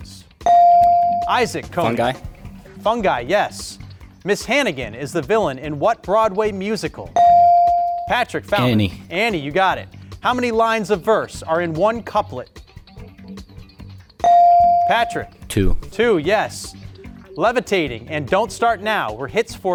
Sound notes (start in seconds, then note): 0.5 buzzer chimes; 7.2 buzzer chimes; 14.3 buzzer chimes